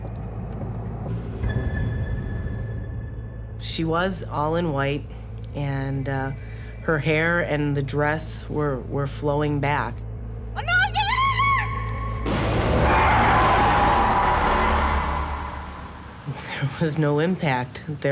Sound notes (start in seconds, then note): 12.2 car crash noise; 12.3 brakes screeching